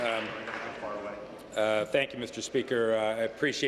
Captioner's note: applause